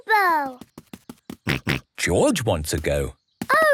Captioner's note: snorts